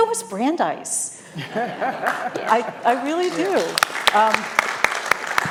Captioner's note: laughter; applause